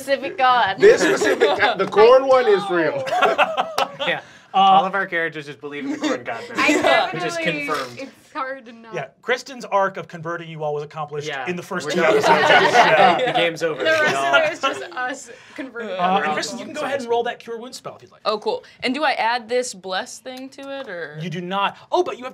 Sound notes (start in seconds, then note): 2.0 laughs